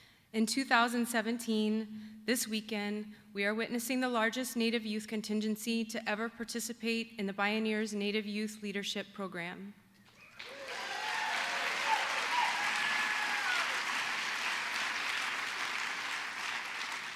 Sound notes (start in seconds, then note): 10.2 applause